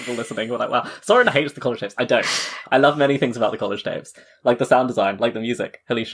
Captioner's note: laughs